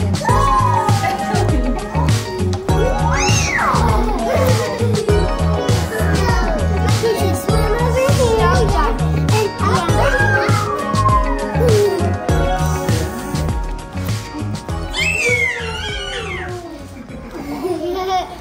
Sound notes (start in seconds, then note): 3.8 kids shrieking; 8.1 kids chattering